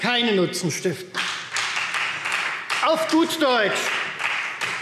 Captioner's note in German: Beifall Freie Demokraten